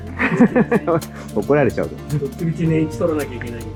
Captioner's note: laughs